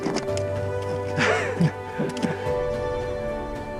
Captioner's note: laughter